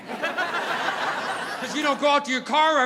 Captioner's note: audience laughing